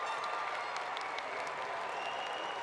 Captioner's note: applause